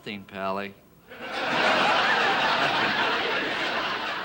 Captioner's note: audience laughing